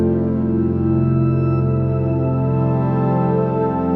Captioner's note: none